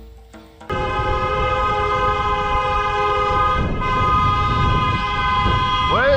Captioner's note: more endless honking